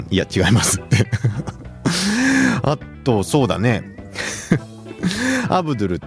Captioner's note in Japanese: 笑い; 息をのむ音